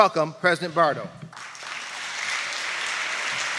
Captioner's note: applause